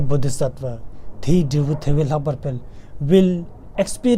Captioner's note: tibetan